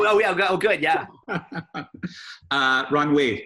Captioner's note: chuckles